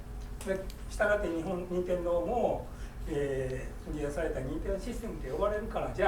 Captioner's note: speaking in foreign language